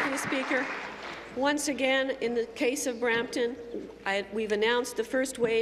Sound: applause

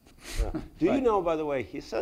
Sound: chuckles

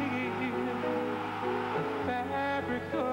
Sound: crowd roars

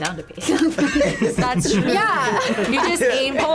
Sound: laughs

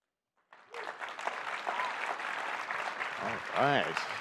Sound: audience applauds

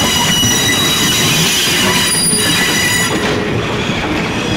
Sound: brakes squealing

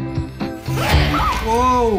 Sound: screams

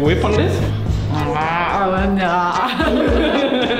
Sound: uncomfortable noises

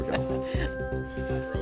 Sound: laughing

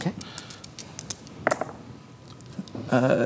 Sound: dice rattling, then rolling

